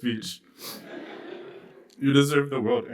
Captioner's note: laughter